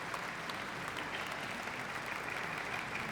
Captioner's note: applause